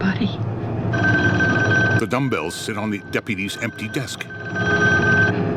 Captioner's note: phone ringing continues; rotary dial whirring